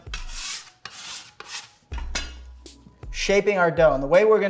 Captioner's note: scrapping